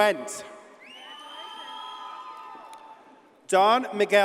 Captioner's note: audience cheers and applauds